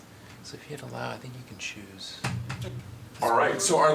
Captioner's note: background chatter